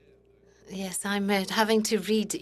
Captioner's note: speaking in French